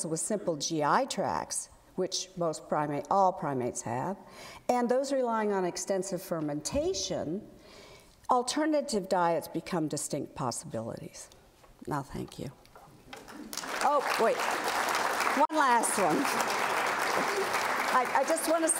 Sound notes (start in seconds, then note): 13.2 applause